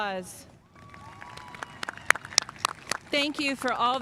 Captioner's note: spectators applauding